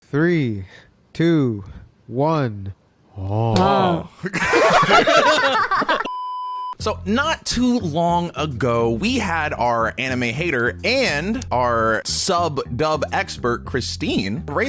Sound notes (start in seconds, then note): 4.1 all laughing; 6.4 high-pitched beeping